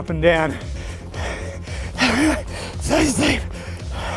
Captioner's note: panting breathlessly